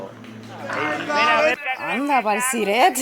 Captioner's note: laughs